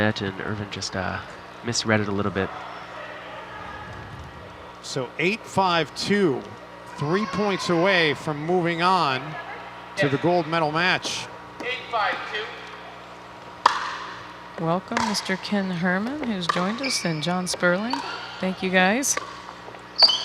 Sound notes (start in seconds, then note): 1.7 people chattering; 13.5 ball bouncing